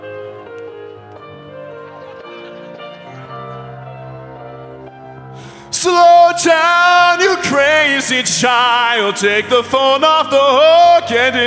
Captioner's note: applause